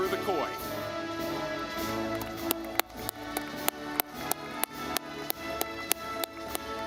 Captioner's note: audience clapping